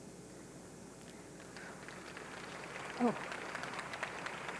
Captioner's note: audience clapping